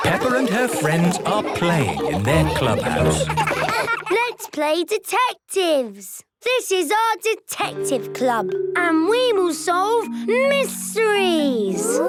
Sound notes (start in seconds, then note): 3.7 giggling